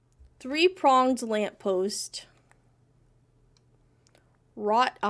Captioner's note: none